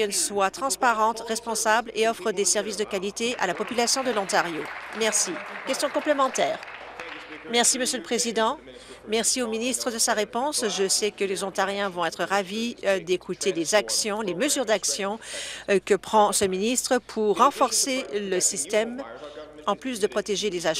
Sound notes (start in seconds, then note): 6.5 applause